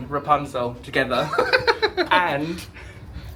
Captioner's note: laughing